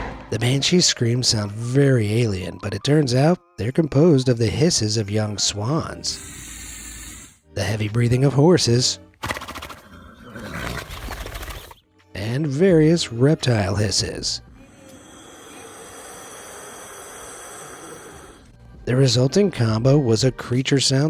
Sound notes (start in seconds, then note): 6.1 swan hisses; 9.2 horse snorts; 14.6 alligators hisses